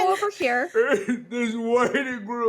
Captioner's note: sobbing